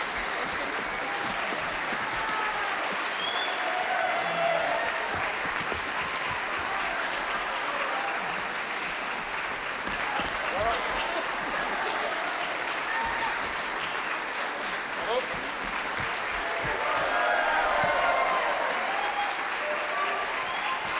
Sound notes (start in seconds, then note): 0.1 audience clapping; 3.6 audience cheering; 5.6 audience clapping; 13.6 audience cheering; 15.1 audience clapping; 17.3 audience cheering